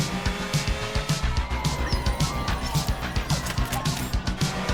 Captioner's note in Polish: ludzie wrzeszczōm, pies piszczy